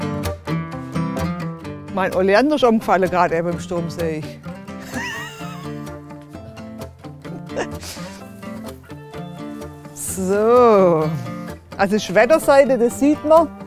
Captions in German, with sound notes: Mein Oleander ist umgefallen, grad eben beim Sturm, seh ich. (Sie lacht.) (Lockere Musik) So, also, das ist die Wetterseite, das sieht man.